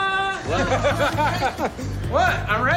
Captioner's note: laughter